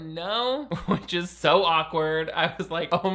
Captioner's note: laughs